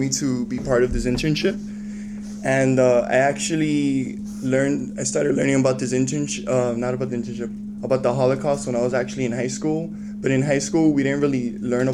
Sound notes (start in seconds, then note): none